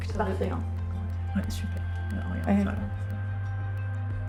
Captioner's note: both speaking softly